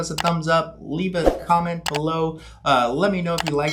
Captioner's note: mouse clicks; mouse clicks